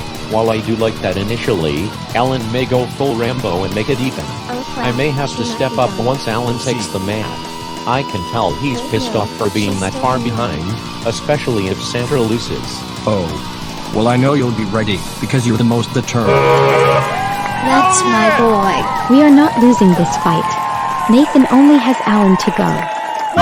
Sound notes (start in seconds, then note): 16.4 horn sound, audience cheering